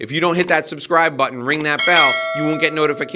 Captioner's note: mouse clicking; bell ringing